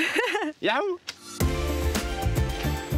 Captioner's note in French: rires